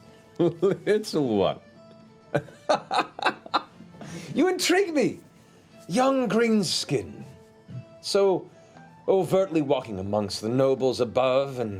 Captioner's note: laughs